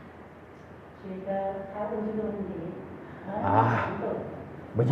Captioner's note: audience Chinese